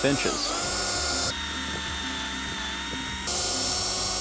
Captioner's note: drill buzzing